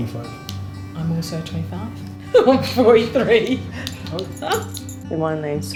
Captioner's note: laughs